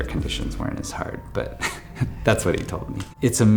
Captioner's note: chuckles